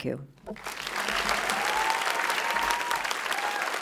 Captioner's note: applause